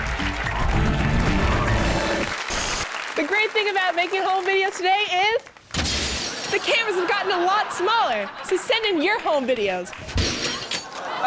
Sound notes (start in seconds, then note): 0.0 audience applauds; 5.7 glass breaks; 10.1 glass breaks